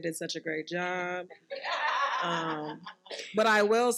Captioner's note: participants laughing